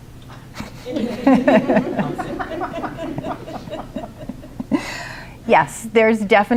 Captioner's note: laughter